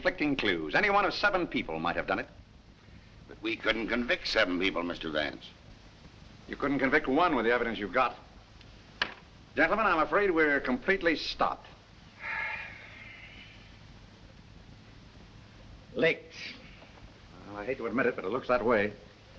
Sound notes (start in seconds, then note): 12.2 sighs